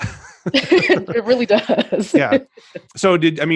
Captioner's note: laughs